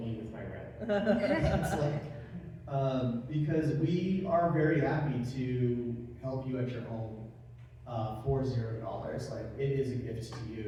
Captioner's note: laugh